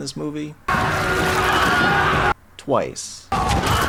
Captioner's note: Wilhelm scream